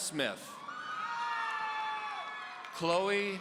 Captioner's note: audience cheering